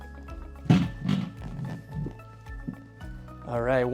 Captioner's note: table clattering